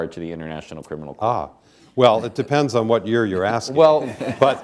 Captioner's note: laughter